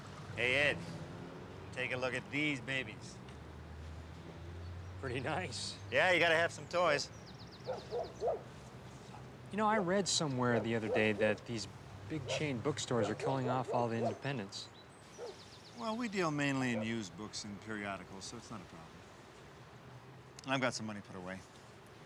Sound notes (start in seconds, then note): 7.6 dog barking